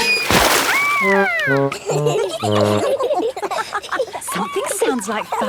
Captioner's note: all laughing